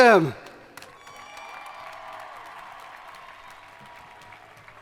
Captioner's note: crowd applauding